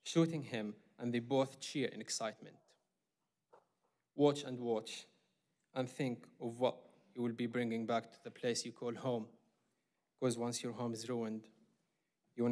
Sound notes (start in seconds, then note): none